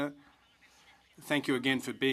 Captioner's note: speaking in french